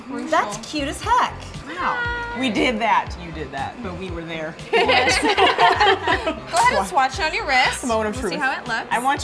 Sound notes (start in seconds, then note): 4.7 laughs